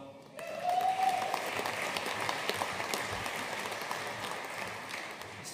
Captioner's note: audience cheering and applauding